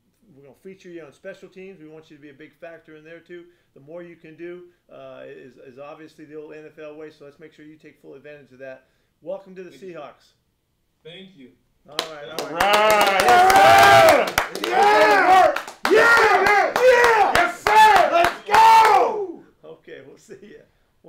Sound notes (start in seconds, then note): 12.9 clapping